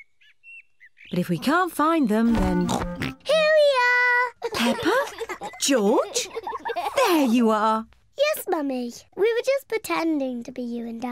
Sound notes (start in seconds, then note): 2.3 both oinking; 4.4 both laughing